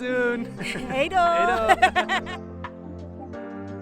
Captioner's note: speaking foreign language; upbeat music